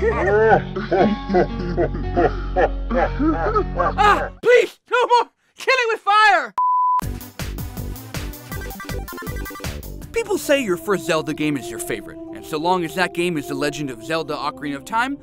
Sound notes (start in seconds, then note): 0.0 both laughing; 0.0 laughing deeply; 3.7 shouts; 6.6 beeping; 7.0 upbeat 8-bit music